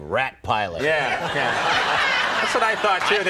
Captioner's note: audience laughing